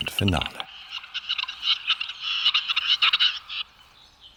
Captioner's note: bird squawking